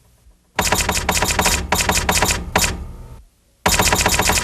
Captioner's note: computer chimes